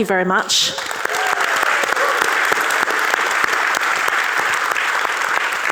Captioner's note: audience cheering